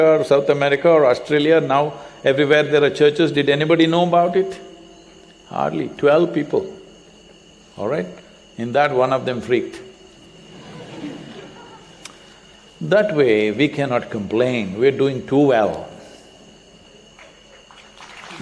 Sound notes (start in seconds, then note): 10.4 laughter; 17.2 applause